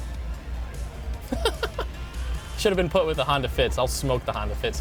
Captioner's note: laughs